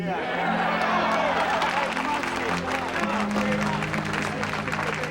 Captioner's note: crowd; crowd cheering